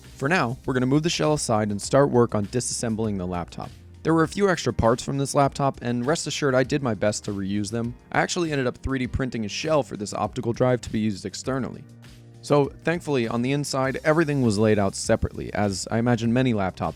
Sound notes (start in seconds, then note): none